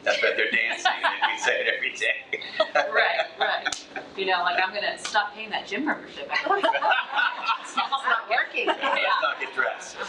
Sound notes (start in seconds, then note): 2.8 laughs; 6.4 trustees laugh